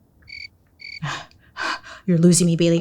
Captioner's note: insects chirping; panting